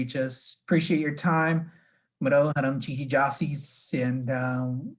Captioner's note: gives thanks in native language